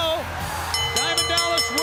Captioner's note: bell ringing